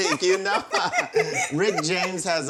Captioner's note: both laugh